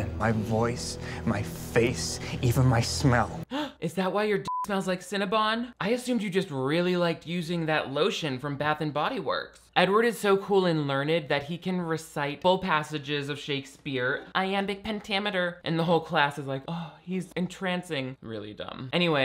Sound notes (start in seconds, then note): 3.7 gasps; 4.4 beep